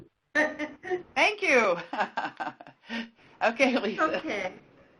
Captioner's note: laughs